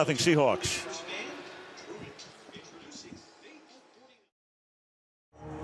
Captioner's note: pa announcement